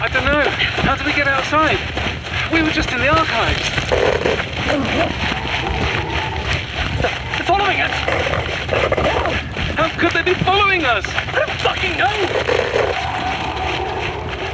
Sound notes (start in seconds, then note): 7.3 burst of static. an inhuman scream